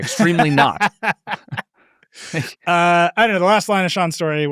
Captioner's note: laughs